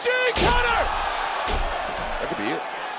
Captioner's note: crowd roars